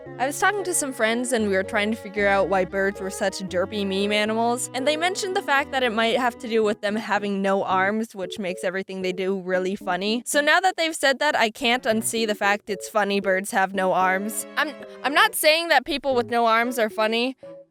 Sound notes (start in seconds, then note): none